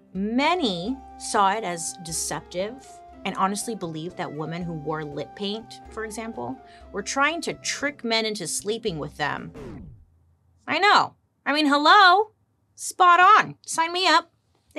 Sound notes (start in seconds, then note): 9.2 record scratches